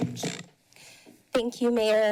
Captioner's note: microphone squeaks